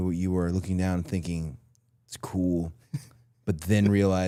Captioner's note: Chad laughs